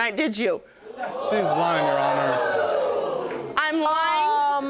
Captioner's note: audience exclaiming